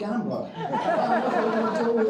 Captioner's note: crowd laughing